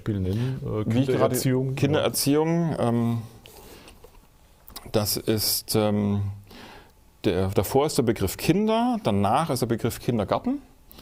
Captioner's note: in German